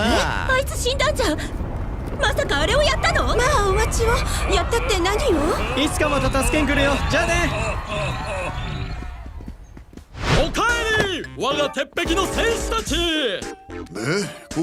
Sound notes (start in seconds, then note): 0.3 approaching rumbling; 5.4 chuckling; 6.6 laughing; 8.4 distant townsfolk screaming